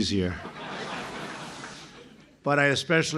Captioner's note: laughter